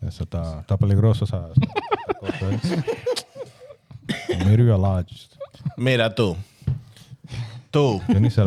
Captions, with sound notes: (Speaking In Foreign Language) (Laughing) Maybe we're lodged. Me rah too. Too.